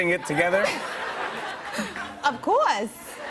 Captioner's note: laughter